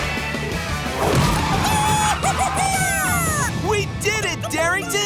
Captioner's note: squawking